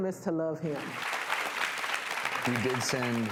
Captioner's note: audience applause